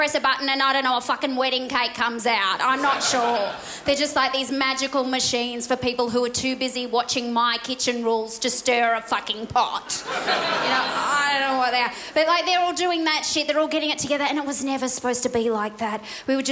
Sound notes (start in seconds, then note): 9.8 crowd laughs